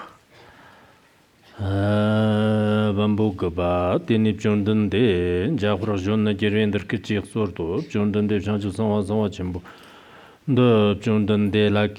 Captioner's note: giving oral transmission in Tibetan